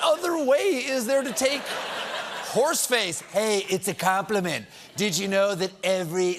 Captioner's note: laughter